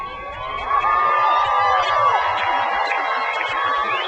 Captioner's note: crowd cheers